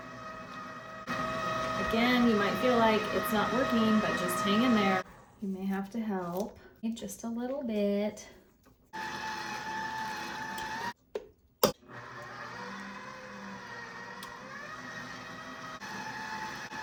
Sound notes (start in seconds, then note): 6.8 Kitchen Aid working